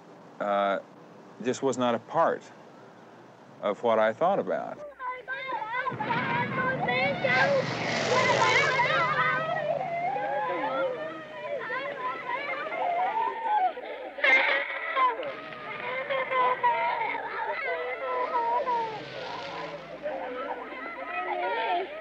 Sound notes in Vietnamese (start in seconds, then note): 4.9 Kêu khóc bằng tiếng Việt; 5.9 Tiếng nổ; 14.6 Kêu khóc; 18.0 Tiếng cánh quạt máy bay rít trên đầu